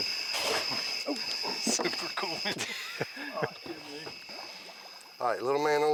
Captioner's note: laughing